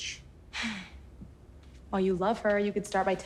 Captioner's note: sighs